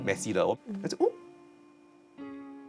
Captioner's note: surprised